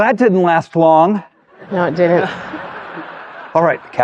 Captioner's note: audience chuckling